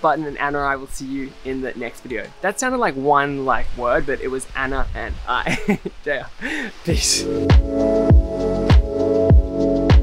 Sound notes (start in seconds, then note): 5.4 laughs; 6.6 upbeat music